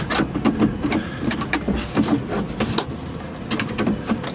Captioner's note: shuffling